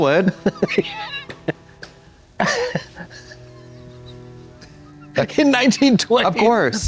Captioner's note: Katya rattles and slaps